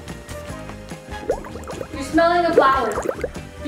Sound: bubbles gurgling

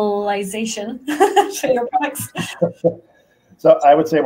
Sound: laughs

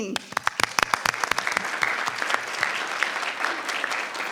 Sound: audience clapping

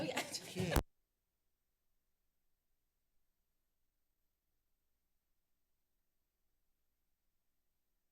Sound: silence

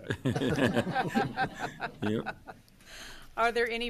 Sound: loud laughter

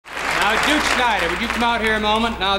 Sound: audience applauds

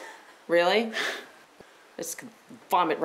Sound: laughs

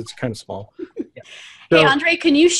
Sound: laughter

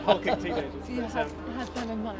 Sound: man laughing

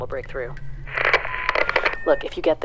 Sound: radio crackle

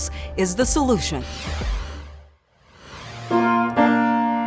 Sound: logo whooshing; piano music

